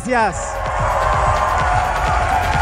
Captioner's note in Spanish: Aplausos